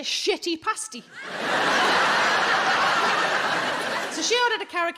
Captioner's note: audience laughing